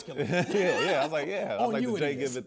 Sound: laughs

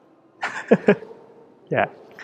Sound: laughs

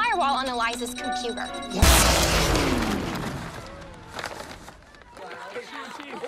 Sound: sound effect, paper ripping

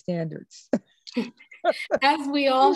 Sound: laugh

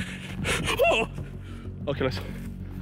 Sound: yelps

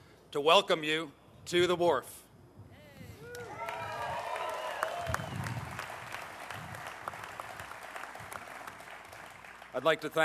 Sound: applause

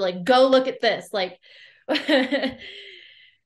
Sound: laughs

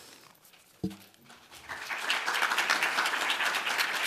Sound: applause

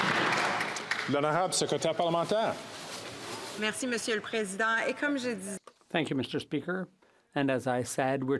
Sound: some Applause

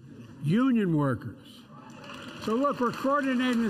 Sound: applause

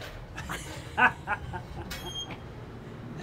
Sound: chuckles; laughing

